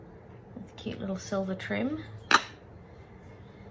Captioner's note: lids taps on bench